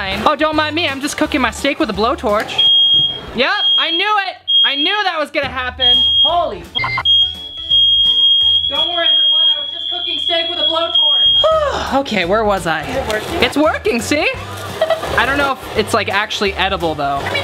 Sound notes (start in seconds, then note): 2.6 fire alarm beeps; 6.7 beep